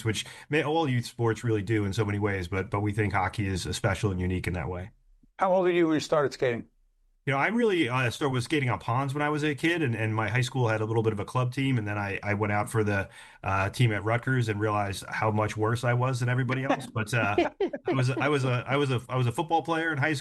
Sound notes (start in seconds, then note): 16.4 laughing